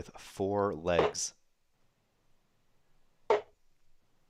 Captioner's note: dart ticks